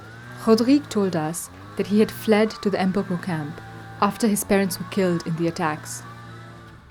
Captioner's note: voice-over